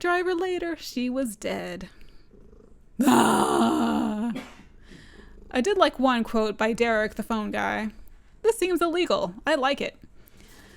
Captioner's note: yells